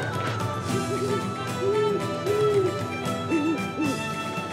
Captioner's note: owl hooting